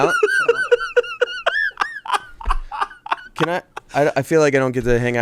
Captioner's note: laughs